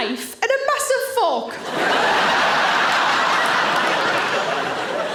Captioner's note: audience laughing